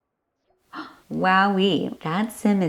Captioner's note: gasp